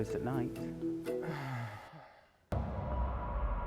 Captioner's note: sighs